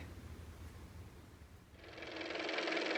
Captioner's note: car motor